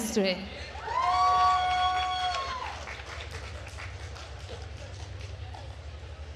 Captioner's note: attendees cheering and applauding